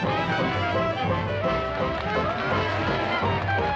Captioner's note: crowd cheering